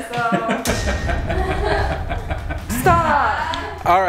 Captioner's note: laughs